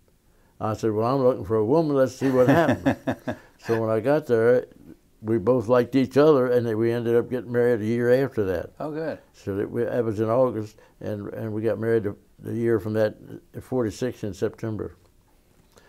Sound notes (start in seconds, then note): 2.2 laughter